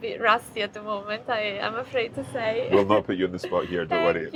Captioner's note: chuckles